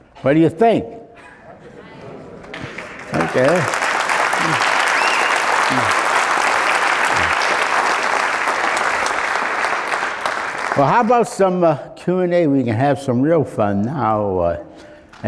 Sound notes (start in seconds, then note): 2.7 applause